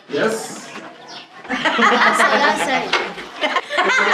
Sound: laughter

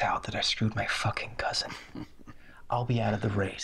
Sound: Charlie chuckles

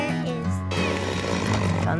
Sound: chainsaw roaring

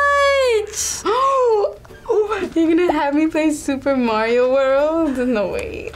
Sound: gasps

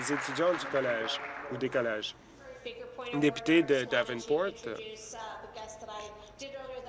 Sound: applause

